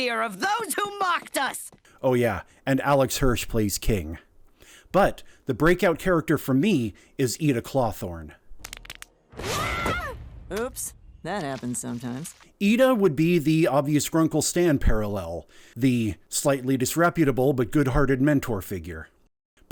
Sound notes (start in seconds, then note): 9.4 screams